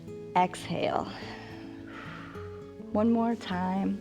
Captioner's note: exhales